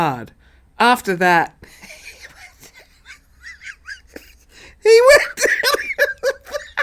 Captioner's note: laughs